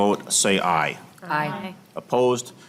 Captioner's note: chorus of ayes